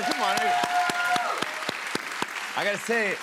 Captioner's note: cheers and applause